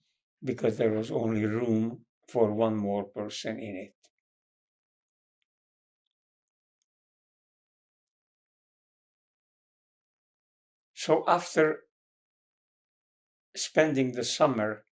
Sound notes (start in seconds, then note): 4.2 pauses 6 seconds